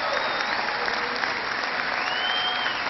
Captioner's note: cheering